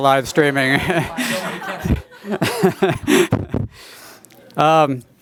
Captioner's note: laughter